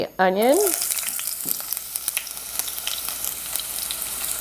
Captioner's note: oil sizzles